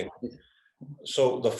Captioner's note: Laura speaks in foreign language